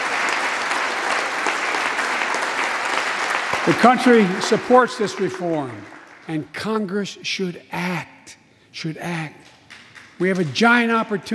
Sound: applause

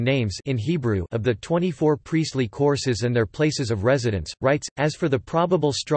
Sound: in Hebrew

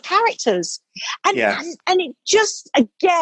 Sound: male Voice

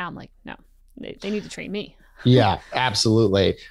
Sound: laughs

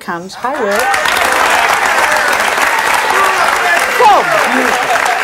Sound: audience claps

